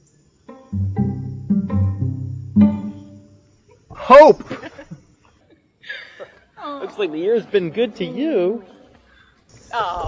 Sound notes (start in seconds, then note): 4.3 laughs